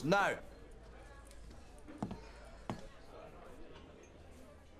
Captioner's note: patrons chattering